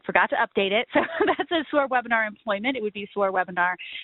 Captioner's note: laughs